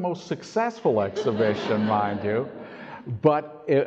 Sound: audience laughs

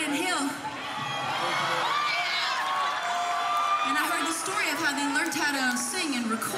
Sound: cheering

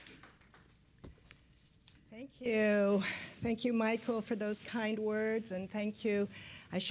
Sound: applause

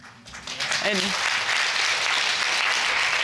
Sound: audience applauding

